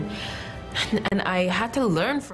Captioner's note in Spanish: habla en ingés